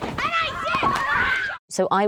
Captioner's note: slapping